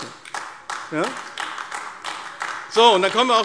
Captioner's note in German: Beifall AfD